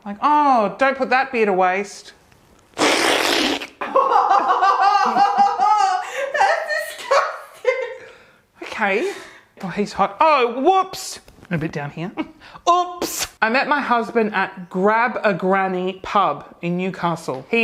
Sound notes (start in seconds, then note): 2.6 slurping; 3.8 woman laughing